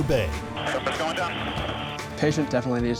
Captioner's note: man Over Radio